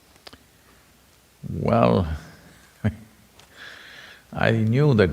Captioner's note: laughs